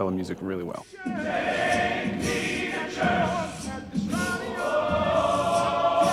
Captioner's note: beatboxing